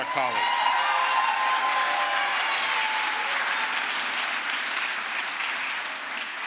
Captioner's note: crowd applause